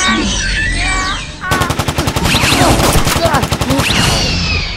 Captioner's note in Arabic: أطلقت طلقات